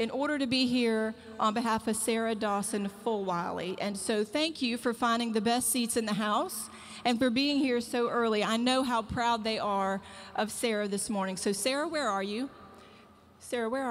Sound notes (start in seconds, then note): none